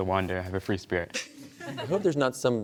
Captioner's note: laughter